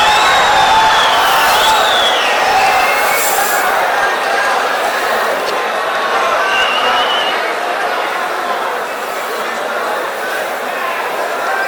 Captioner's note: wild applause and cheering for 22 seconds